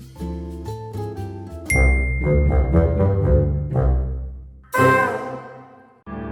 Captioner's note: twinkle